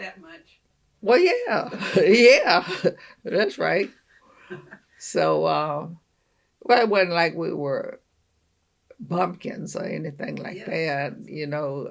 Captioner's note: laughs